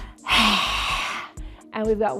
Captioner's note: breath rushing